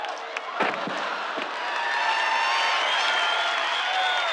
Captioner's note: crowd cheering